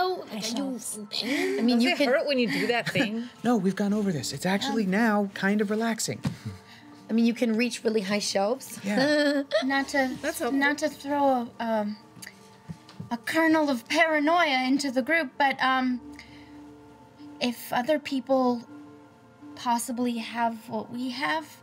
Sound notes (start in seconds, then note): 8.9 laughing